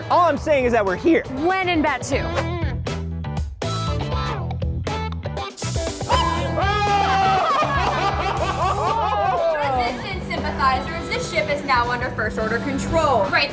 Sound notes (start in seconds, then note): 5.7 shouting; 7.2 laughter